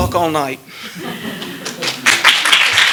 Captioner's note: laughter; applause